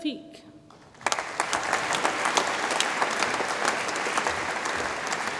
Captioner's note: audience applauds